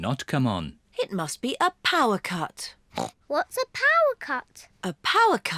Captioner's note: grunts